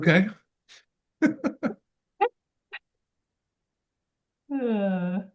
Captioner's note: laughs